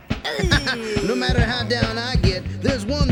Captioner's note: chuckles